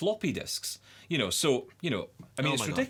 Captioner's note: laughs